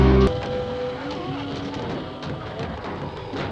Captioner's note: ghouls groaning